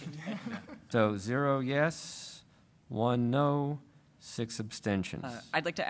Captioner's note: laughter